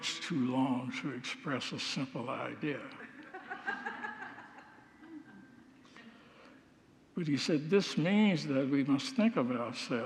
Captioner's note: congregants laugh